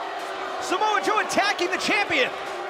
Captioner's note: cheers & boos